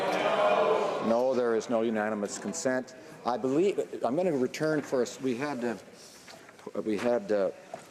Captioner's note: some Applause